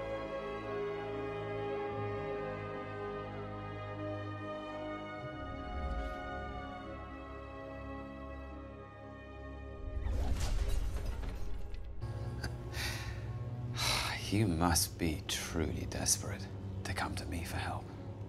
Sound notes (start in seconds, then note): 12.0 Loki laughs